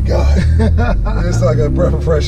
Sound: laughing

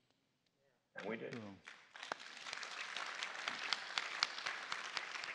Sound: applause

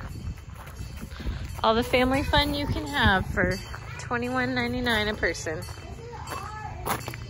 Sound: train bell going

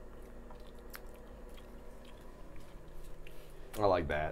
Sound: Tyler and Safiya chewing

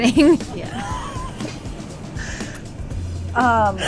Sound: laughing

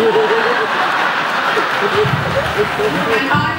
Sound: laughs

